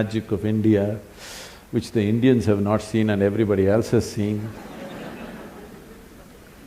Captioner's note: laughter; 笑聲